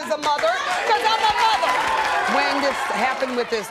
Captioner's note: audience cheering